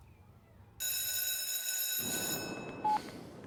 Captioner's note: school bell rings; phone beeps